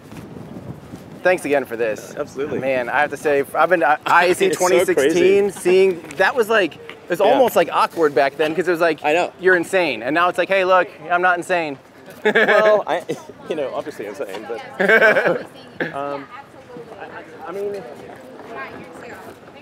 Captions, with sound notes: Thanks again for this - Absolutely. - I have to say, I've been to IEC 2016, seeing, that was like, it was almost like awkward back then cause it was like, - "You're insane", and now it's like, "Hey look, I'm not insane." (laughs) - Well, you know obviously I'm sane, but you know, I mean... (background chatter)